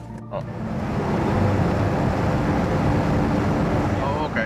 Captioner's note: vehicle humming